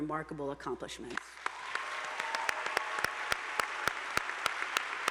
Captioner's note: attendees applauding